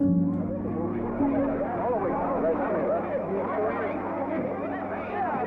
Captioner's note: people chatter indistinctly